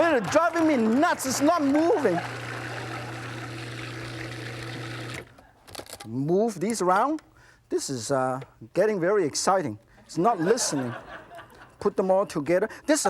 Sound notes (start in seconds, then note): 2.8 blender buzzing